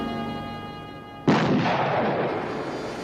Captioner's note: gun firing